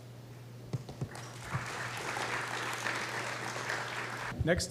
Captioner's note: applause